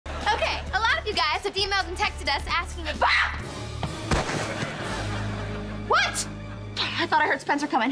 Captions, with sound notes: Okay, a lot of you guys have emailed and texted us asking for- [shrieking] What? I thought I heard Spencer coming.